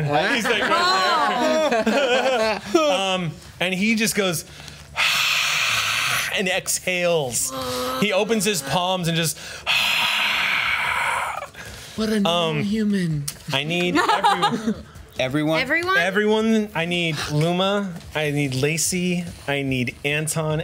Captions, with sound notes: he's right there. (group moans) - And he just goes (screams) and exhales. He opens his palms and just (screams). - What a non-human. - I need everyone - everyone? - Everyone I need Luma, I need Lacy, I need Anton